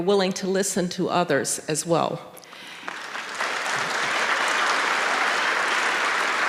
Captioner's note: audience applauding